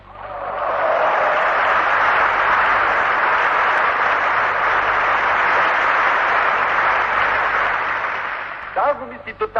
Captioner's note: applause